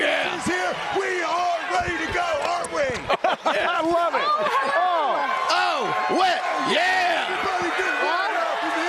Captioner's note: cheers